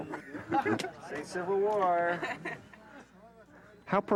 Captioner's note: people chuckling